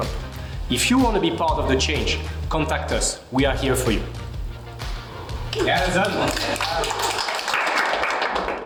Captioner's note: applause